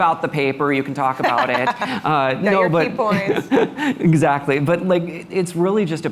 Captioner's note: laughter